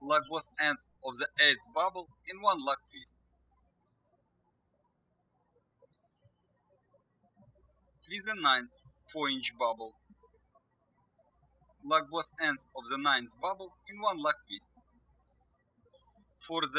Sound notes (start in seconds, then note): 4.3 birds chirping